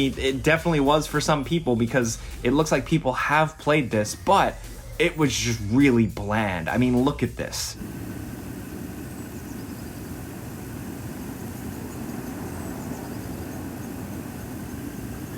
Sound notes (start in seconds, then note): 7.6 engine rumbling